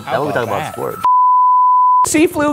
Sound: sound beeps

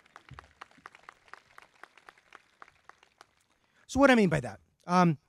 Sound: crowd clapping

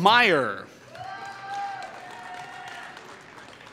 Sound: applause

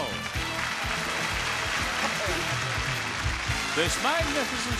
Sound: audience applauding

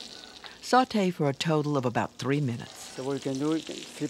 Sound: voiceover

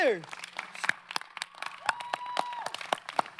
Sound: applauding

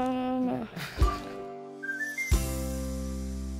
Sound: adults chuckle; upbeat music ends

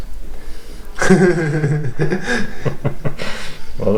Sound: laughing

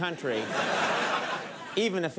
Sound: audience laughs

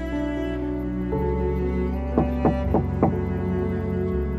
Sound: knocking on door

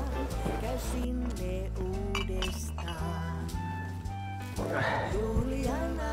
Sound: bottles clinking

